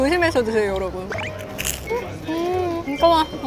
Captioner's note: crunchy ASMR